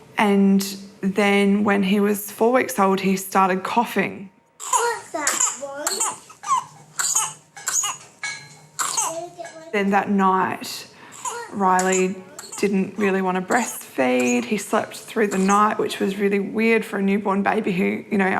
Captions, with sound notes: And then when he was 4 weeks old, he started coughing. (COUGHS) (GASPS, COUGHS) Then that night, Riley didn't really wanna breastfeed. He slept through the night, which was really weird for a newborn baby who, you know,